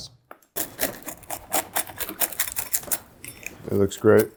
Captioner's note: pizza crunches